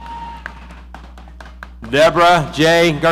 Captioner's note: audience applauding